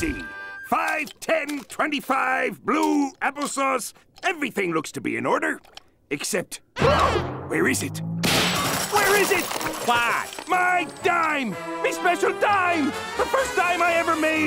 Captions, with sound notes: Five, ten, twenty-five, blue, applesauce. Everything looks to be in order, except... [gasps] Where is it? Where is it? What? My dime! Me special dime! The first dime I ever made.